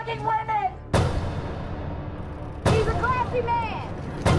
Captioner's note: booms echoes